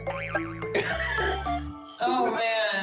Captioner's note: chuckles